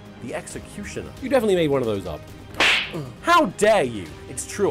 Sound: slap

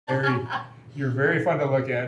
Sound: laughs

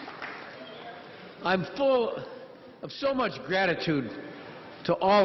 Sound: crowd cheering

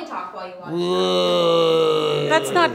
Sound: grunting

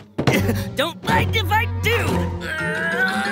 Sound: grunting

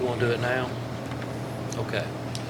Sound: faintly speaking

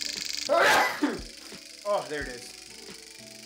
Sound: sneezing

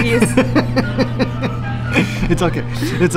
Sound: laughing

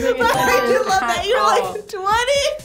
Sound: laughing

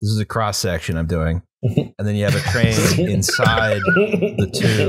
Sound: laughter; laughter intensifies

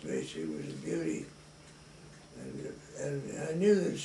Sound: none

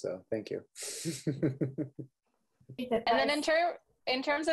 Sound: laughing

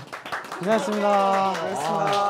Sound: clap

